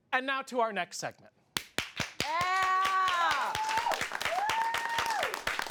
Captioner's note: audience applauds